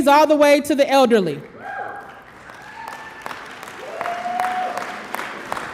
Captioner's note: audience applause